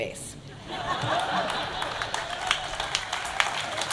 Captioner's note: audience laughing; audience applauding